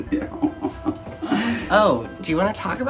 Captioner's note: laughs